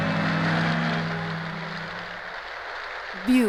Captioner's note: rain pattering